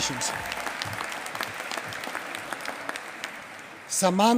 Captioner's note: applause